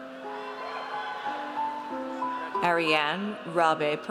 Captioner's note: audience cheers